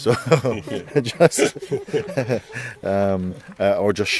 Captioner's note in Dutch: gelach